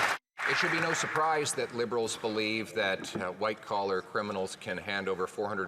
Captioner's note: some Applause